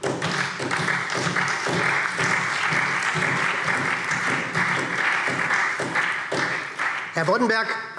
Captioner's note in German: Beifall SPD